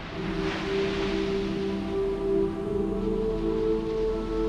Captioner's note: waves crashing on shore